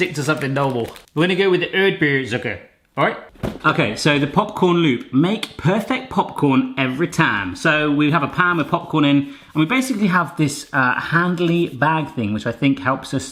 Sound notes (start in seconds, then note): 2.5 speaking German